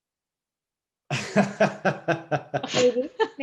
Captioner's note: laughs